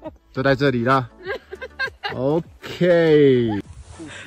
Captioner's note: the only teammate next to him was laughing